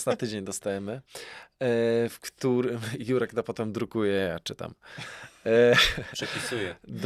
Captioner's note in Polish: śmiech